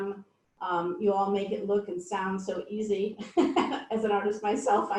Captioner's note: laughs